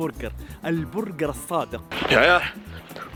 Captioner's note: in Arabic